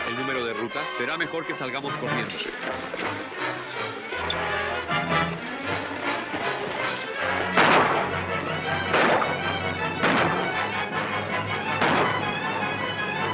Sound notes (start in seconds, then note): 7.2 gunshots - tense music